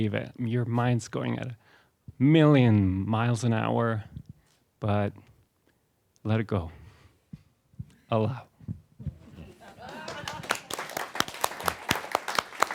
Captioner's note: applause